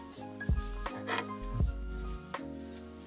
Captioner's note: snip snip